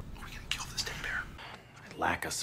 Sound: whispering

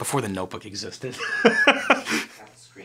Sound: laughing

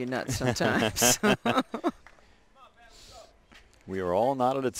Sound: laughter

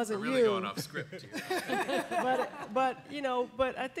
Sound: laughing

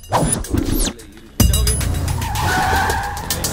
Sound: brakes squeak

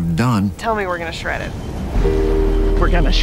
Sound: waves pounding

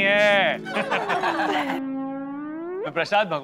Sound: laughing

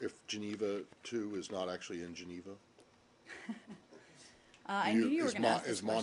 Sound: laughter

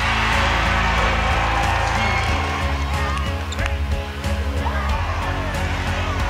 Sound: cheers and applause

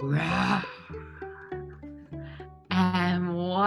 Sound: imitating lion roaring

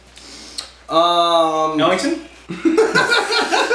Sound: laughter

